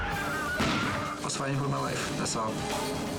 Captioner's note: gun firing